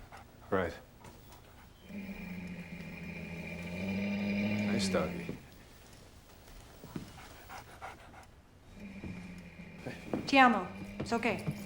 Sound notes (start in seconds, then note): 1.8 growling